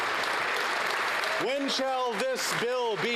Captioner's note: applause